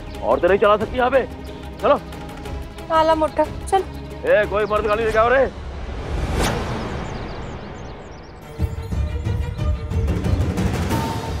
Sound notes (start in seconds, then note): 6.7 birds chirping